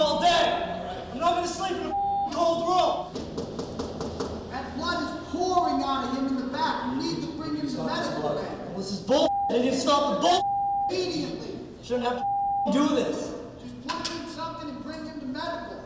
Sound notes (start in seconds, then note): 3.0 knocking